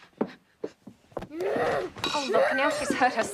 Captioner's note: moaning